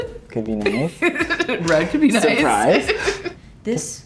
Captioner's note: laughs